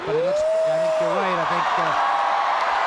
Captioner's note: crowd cheers